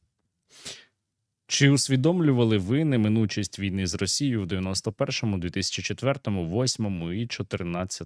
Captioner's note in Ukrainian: сопіння